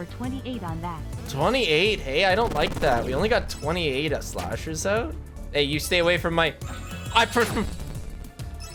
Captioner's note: noises of agitation